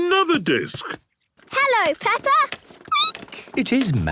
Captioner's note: squeaking